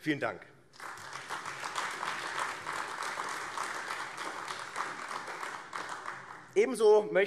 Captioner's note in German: Beifall AfD